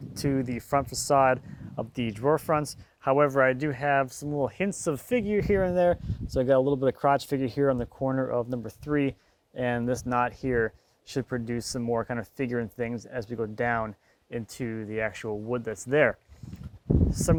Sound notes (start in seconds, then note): none